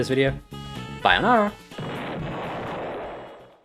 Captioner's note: cool ass explosion